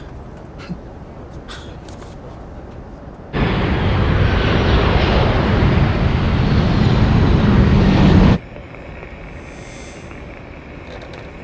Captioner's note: scoff